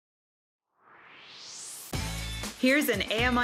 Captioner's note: swoosh